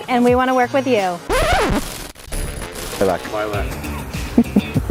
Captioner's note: reverse sound